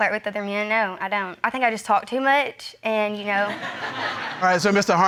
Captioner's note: audience laughing